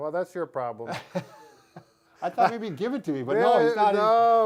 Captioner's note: laughing